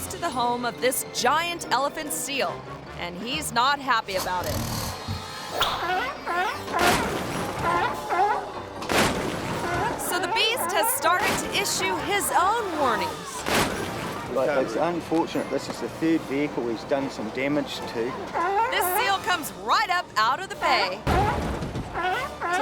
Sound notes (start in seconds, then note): 4.7 seal snorting; 6.0 car rattles; 6.0 seal barking; 7.9 car rattles; 7.9 seal barking; 21.8 seal barking